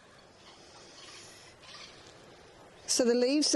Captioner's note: birds chirping